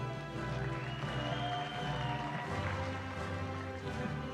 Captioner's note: cheering